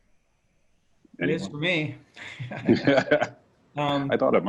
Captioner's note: laughs